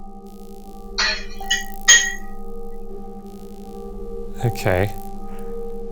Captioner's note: object clatters